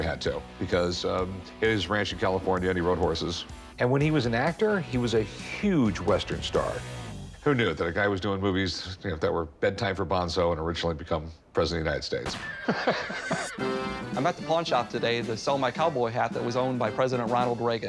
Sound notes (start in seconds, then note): 12.2 gunshot, horse neighs; 12.4 laughs